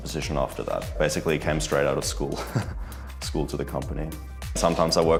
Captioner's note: chuckles